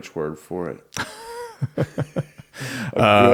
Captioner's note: laughter